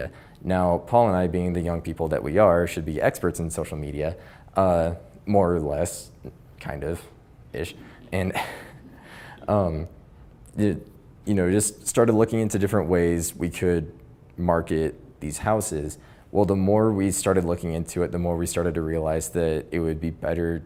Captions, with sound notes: Now, Paul and I, being the young people that we are, should be experts in social media more or less (laughs), just started looking into different ways we could market these houses. Well, the more we started looking into it, the more we started to realize that it would be better